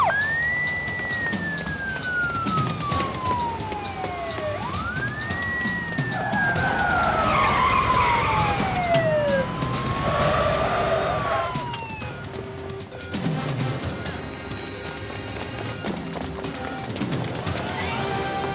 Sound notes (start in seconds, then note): 2.5 footsteps thudding; 6.3 tires screeching; 15.3 footsteps thudding